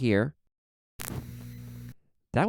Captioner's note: 3 fast clicks